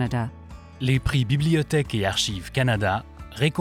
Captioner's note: speaking French